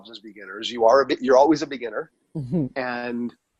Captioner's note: chuckles